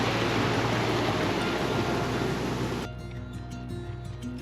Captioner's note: rushing water